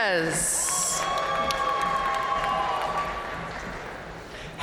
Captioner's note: audience cheering and applauding